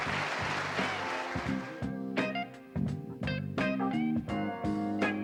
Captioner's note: audience applauding; blues